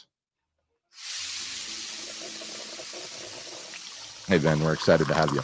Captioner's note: milkshake pouring